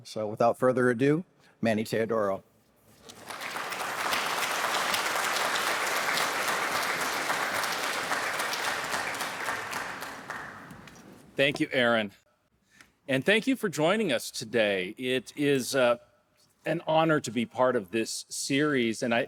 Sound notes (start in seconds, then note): 3.0 audience applauding